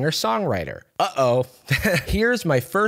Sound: chuckles

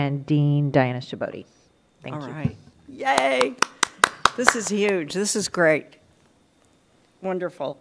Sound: applause

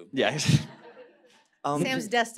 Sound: laughter

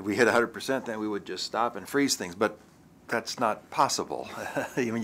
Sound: chuckle

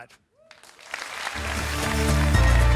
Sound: applause

